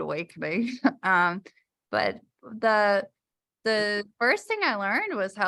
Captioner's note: laughter